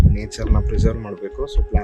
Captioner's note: in Kannada